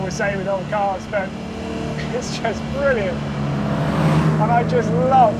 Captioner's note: vehicle revs